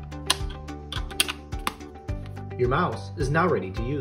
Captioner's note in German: Fach rastet ein